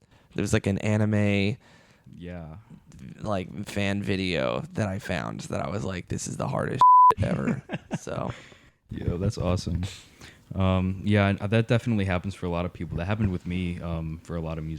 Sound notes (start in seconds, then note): 7.2 laughing